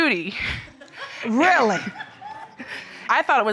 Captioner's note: audience laughs